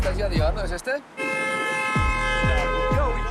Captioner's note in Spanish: Claxon